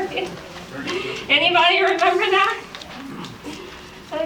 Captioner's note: laughs; laughs